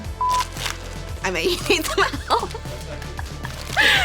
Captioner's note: laughing